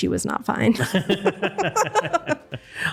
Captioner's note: laughter